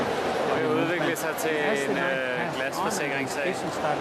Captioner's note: non-english speech